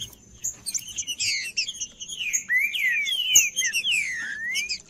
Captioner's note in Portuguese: trinca ferro cantando